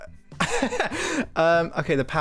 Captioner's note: laughs